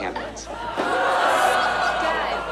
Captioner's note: laughter